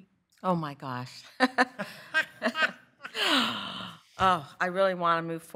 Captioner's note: laughter